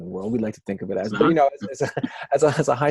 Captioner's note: laughing